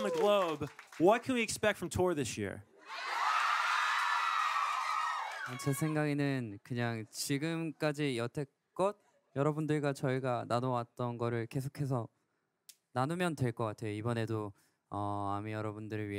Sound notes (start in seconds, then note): 2.8 cheering; 5.8 speaking in foreign language